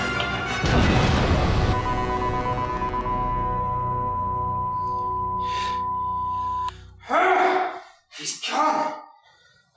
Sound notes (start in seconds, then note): 0.6 microwave explodes; 1.6 beeping stops; 7.0 groaning in rage